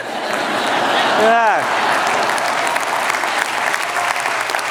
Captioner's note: laughter